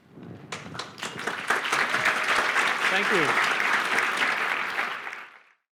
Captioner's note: applause